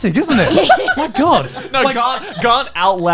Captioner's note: all laughing